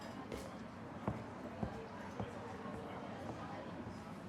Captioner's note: footsteps plodding